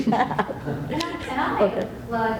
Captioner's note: laughs